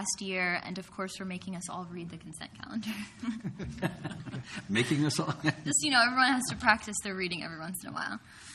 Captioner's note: brief Laughter